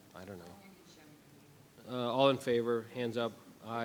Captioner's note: faintly speaking